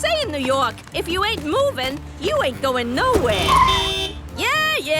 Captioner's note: honking